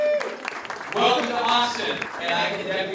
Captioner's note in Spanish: Voz en off